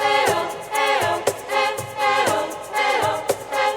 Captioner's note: chanting